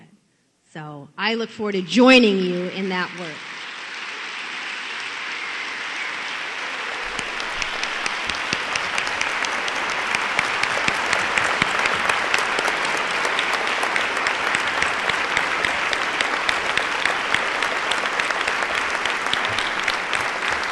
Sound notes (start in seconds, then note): 4.1 applause